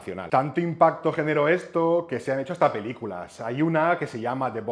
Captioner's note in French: Le choc des bouteilles